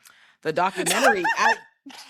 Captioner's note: laughing